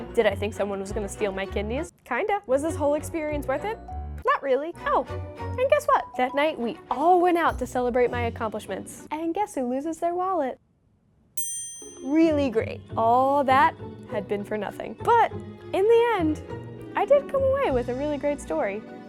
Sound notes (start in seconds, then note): 11.4 ding